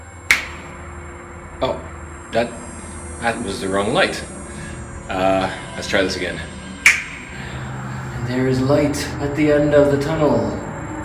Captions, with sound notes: *snap* Oh, that was the wrong light. Let's try this again. *snap* And there is light at the end of the tunnel!